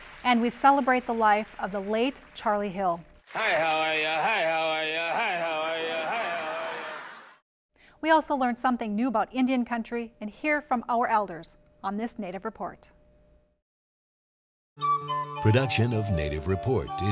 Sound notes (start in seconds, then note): 3.3 chanting; 6.4 laughter